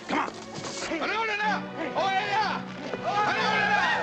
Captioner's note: speaking native language